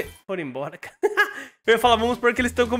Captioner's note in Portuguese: risos